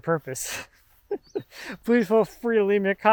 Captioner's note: laughs